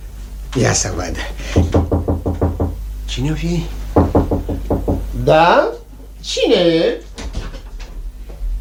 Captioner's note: knocks on the door